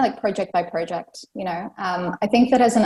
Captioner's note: none